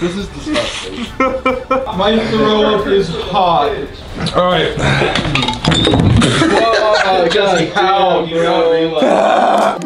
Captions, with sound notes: This is disgusting. - My throw up is hot. - All right. (laughing)